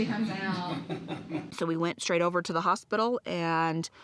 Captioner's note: laughter